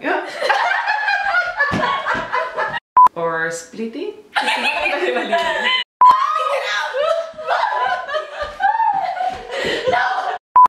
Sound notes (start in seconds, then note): 0.4 laughing; 6.1 laughing and screaming; 6.2 laughing